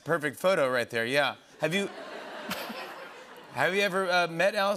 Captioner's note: laughter